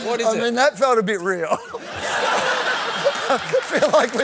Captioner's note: laughter